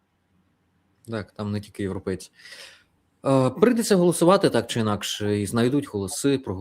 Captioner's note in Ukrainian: сопіння